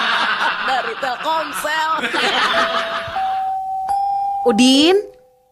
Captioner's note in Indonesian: tertawa